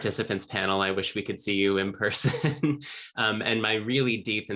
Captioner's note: laughing